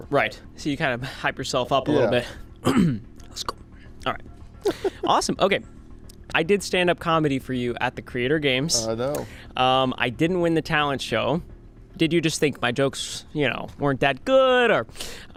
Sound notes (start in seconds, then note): 2.6 Ryan clears throat